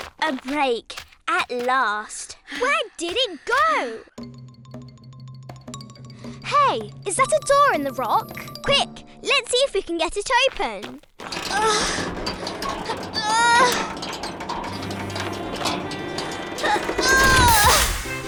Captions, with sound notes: - A break, at last. - Where did it go? (puzzled music) - Hey, is that a door in the rock? - Quick, let's see if we can get it open! (Esme and Olivia grunting) (uncertain music)